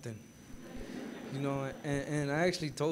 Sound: gathering laughing

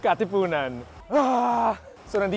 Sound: roars

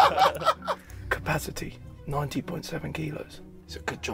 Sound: laughs; whispering

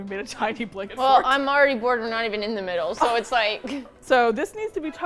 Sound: laughs

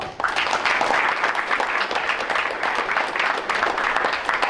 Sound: crowd applauds

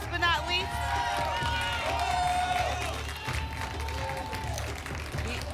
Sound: applause and cheering

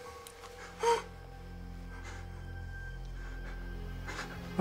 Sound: Chris panting

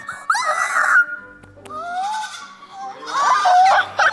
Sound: soft classical music; squealing; lambs baaing

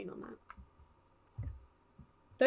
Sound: quiet footsteps

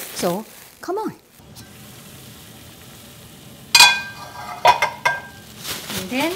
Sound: boiling water

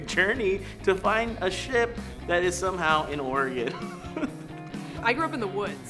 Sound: laughs

